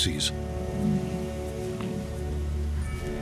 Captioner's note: bison grunts